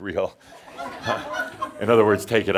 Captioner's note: more chuckles